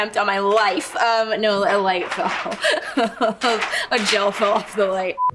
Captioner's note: laughs